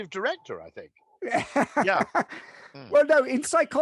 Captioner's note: laughing